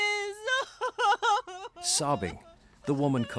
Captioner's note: sobbing